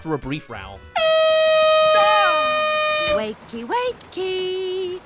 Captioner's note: klaxon